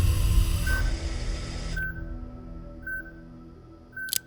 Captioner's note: monitor beeping